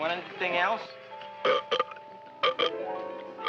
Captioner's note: burp